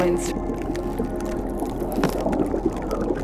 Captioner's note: ice crystalizing